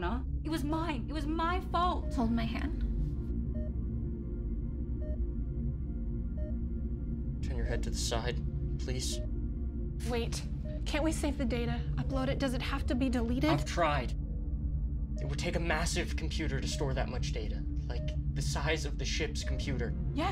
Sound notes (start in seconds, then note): 3.4 dramatic music; 3.4 machinery beeping